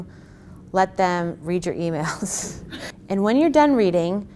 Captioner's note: laughs